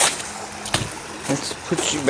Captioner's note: groans; footsteps on gravel